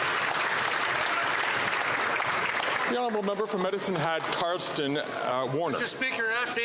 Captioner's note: some Applause